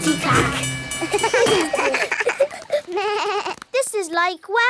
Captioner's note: all laugh